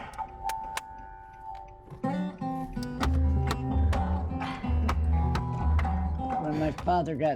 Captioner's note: claps; taps dashboard